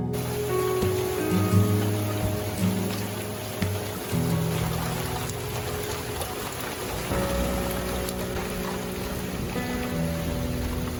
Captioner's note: sound of rain